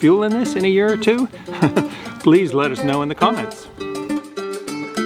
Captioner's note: laughs